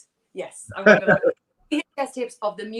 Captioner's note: laughs